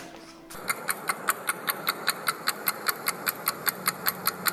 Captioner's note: clock ticking